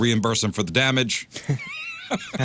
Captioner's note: laughing